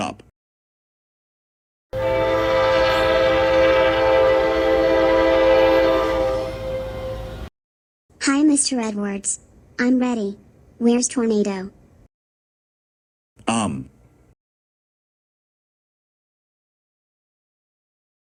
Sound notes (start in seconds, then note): 1.9 horn